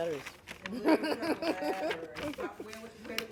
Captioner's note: laughing